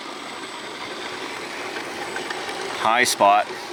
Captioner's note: tires whirring